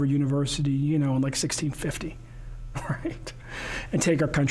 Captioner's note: laughing